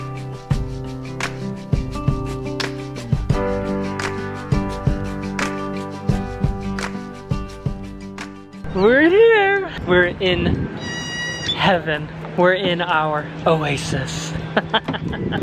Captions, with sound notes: We're here! We're in heaven, we're in our oasis. (laughs)